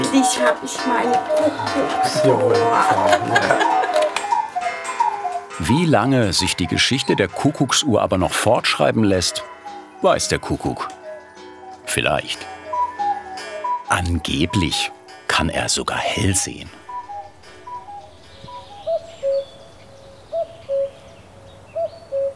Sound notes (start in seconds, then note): 16.7 cuckoo call from the clock; 19.2 birds chirping, real cuckoo call